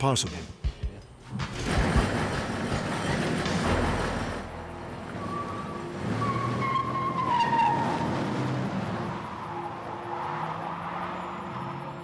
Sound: garage door opening

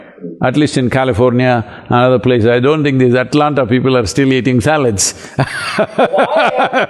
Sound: laughs

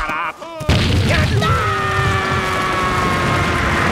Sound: screaming

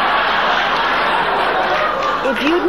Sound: audience laughing

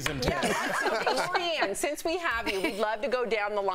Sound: laughter

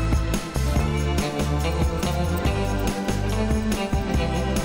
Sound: scissors snipping

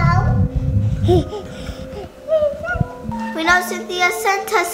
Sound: baby giggles

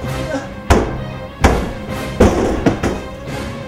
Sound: door Knock & Door Opens Hard

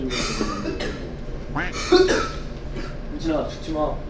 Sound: the ferret shows he's here by coughing

